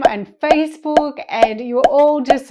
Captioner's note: notifications popping